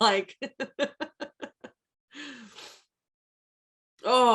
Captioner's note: laughs